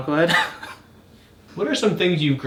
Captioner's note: wheezes